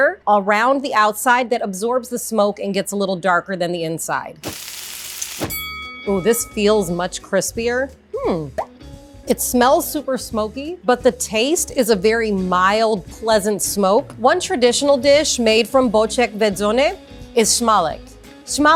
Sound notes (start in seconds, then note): 4.4 pan sizzling; 5.4 bell rings